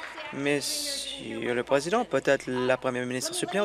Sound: applause

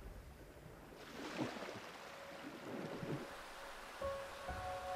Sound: water splashing; vibrant piano music

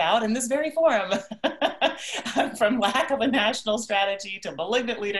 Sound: laughs

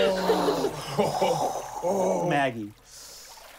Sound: wind blowing

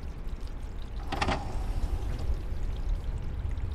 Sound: door closes

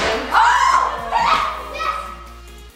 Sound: yelling

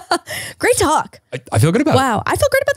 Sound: laughs

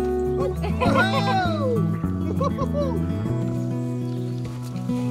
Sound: cheering

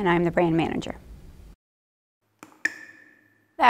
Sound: water dripping

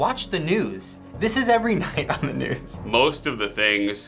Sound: chuckling

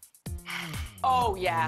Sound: sighs

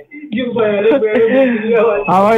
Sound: laughs

